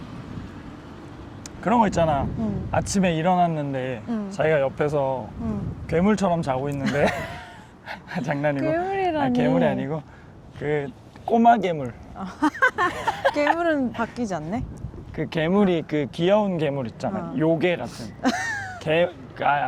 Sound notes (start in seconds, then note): 6.8 haha; 12.2 haha